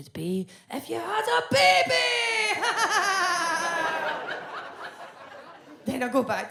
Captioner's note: laughs